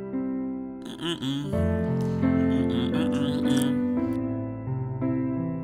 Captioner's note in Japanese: 鼻歌